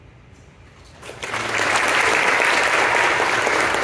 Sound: applause

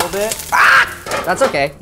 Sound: shouts

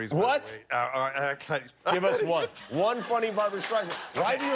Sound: laughter

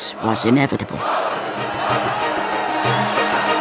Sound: chanting

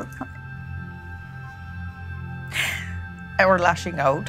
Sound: sobs

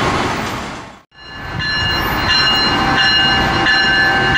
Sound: bells resume

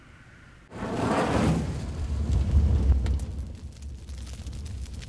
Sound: fire crackling

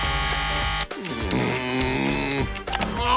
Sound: groaning

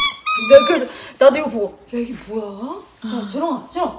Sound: the squeaking is loud too...👍

